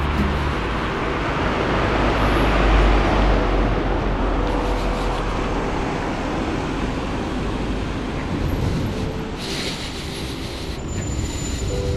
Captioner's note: wind Blowing; beeping